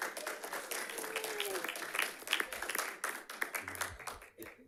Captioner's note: audience clapping